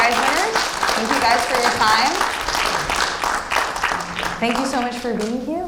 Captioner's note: audience applauding